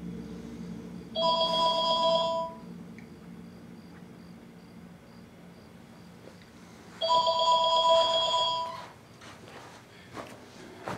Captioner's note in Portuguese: Telefone tocando